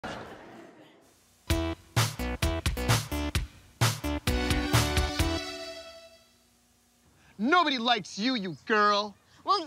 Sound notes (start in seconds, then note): 0.0 laughter